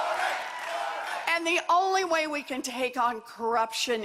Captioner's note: cheers and applause